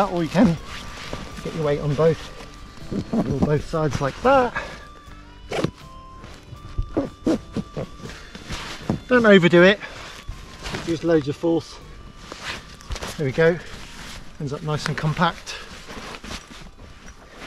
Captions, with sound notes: Or you can get your weight on both sides like that. (zipper zipping) Don't overdo it, don't use loads of force. There we go, it ends up nice and compact.